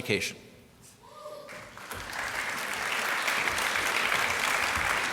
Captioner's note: applause